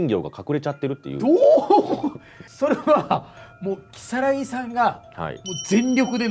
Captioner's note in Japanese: 笑い